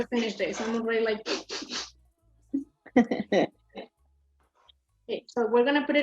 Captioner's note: sniffles